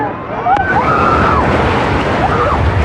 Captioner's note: excititeded scrcreaeam